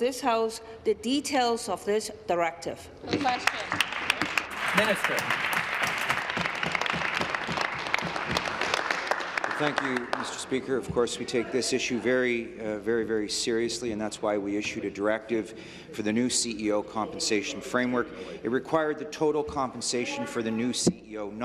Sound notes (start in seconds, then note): 6.5 applause